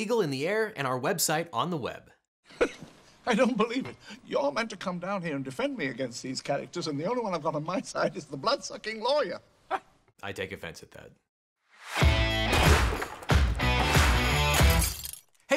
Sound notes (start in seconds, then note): 2.6 laughs; 11.9 upbeat rock music